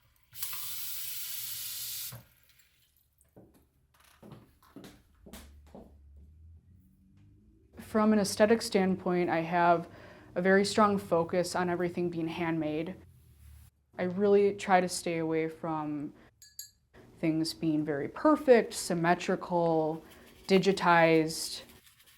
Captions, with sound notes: (water sloshing) (footsteps tapping) - From an aesthetic standpoint, I have a very strong focus on everything being handmade. I really try to stay away from things being very perfect, symmetrical, digitized.